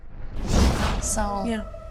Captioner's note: whoosh